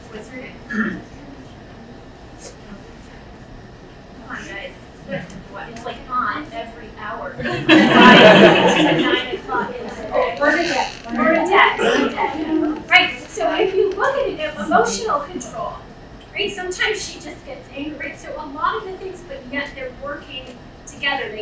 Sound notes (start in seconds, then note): 1.2 speaking away from mic; 7.5 laughing